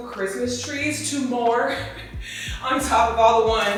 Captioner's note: chuckles